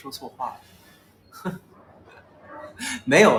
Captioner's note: laughs